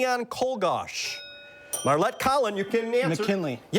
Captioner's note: bell dings